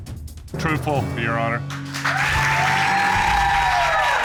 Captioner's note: audience cheering